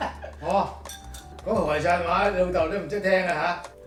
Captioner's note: laughs